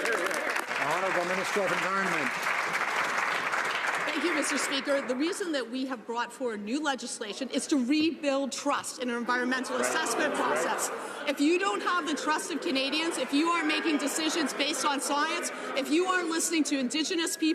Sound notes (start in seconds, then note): 3.5 some Applause